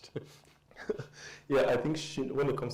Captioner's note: both chuckle